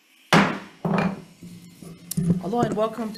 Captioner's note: gavel taps